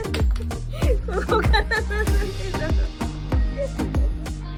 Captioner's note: laughs